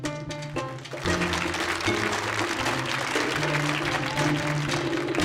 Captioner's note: audience applauding